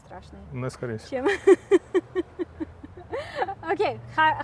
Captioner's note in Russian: смеётся